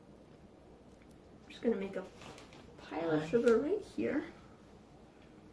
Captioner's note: whispered